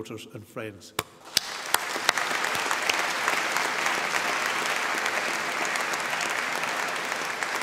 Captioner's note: applause